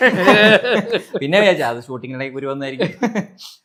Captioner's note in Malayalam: പൊട്ടിച്ചിരി